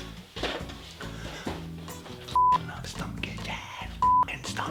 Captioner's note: beep